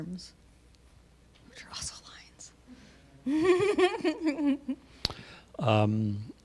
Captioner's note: whispering; laughing